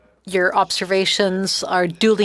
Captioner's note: speaking French